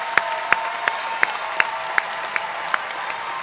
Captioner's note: cheers and applause